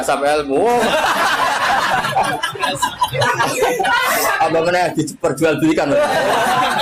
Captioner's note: laughs